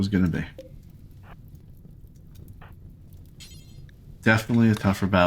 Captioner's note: silence